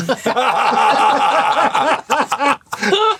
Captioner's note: laughter